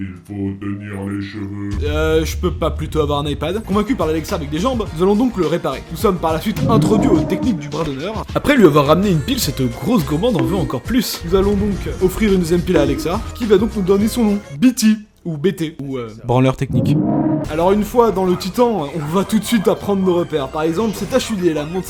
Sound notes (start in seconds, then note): 14.7 english accent; 15.5 French accent